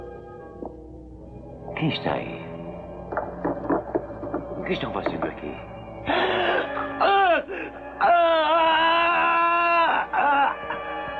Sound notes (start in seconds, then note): 8.0 yelling